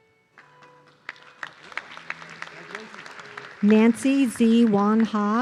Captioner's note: audience clapping